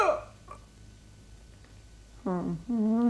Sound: yells

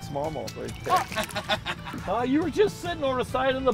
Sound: laughing

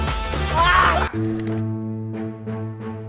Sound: screaming in pain

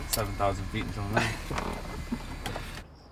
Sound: chuckles

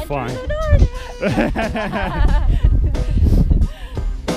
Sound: laughing

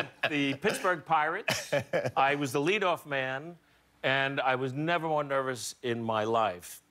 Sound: laughter

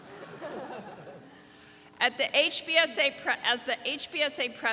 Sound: audience laughing

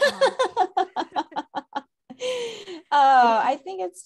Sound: both laugh

